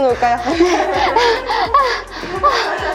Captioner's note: gasping for breath; laughter